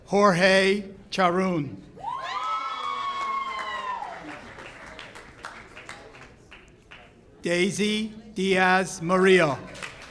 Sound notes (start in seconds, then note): 2.0 audience cheers; 9.6 audience claps